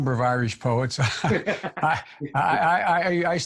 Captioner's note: both laugh